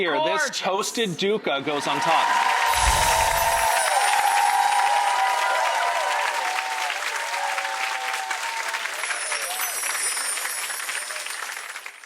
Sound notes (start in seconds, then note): 1.6 audience cheering; 2.6 wind chimes jingling